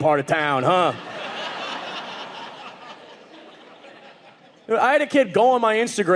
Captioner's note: audience laughing